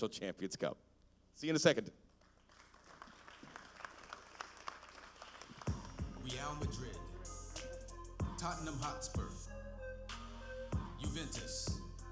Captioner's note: applause